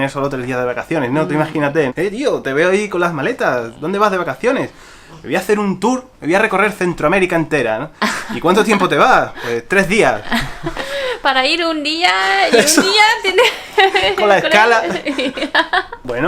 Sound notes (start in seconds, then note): 13.3 laughter